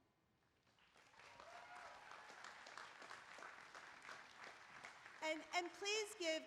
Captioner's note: applause